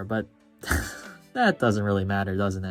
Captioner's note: chuckles